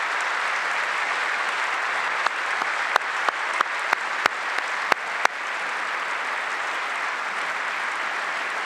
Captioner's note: applause